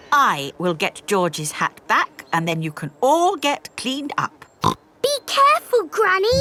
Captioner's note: snorts